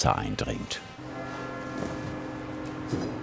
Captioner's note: church bells